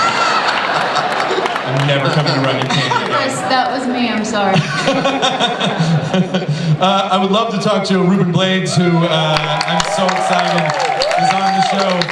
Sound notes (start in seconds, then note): 0.1 laughter; 4.3 laughs